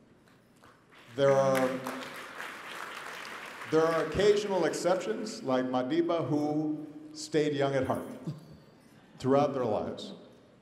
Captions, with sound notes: (applause) There are occasional exceptions like Madiba, who stayed young at heart, throughout their lives.